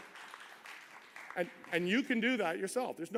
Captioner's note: applause